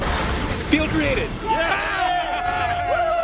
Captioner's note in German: Team jubelt